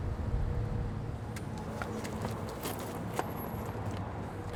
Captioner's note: footsteps thud